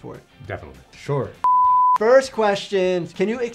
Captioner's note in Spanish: pitidos de transmisión